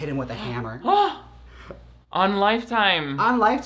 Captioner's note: gasps